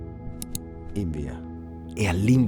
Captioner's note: click